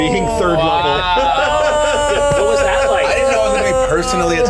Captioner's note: laughter